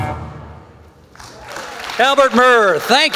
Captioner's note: applause